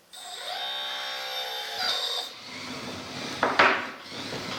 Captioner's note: gears whirring